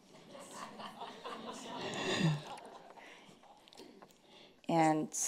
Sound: audience laughing

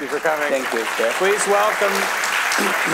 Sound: audience applauding

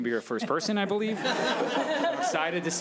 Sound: audience laughing

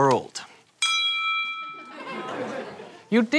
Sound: ding

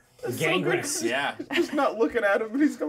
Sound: speaker chuckles

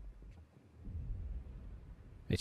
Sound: boom

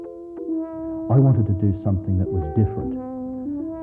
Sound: voiceover

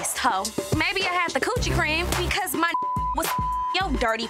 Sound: beep

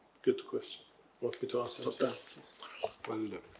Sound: speaking in foreign language

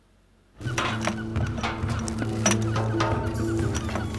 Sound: rustling metal

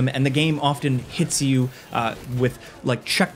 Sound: none

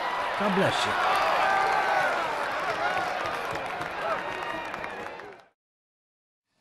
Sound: cheering

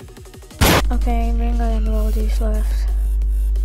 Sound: pow

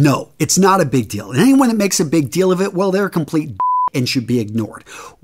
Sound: beeping sound

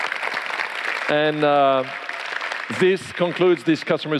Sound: applause

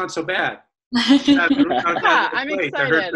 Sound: laughs

